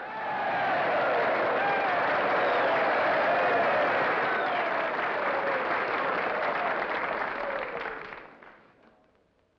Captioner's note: crowd cheers and applauds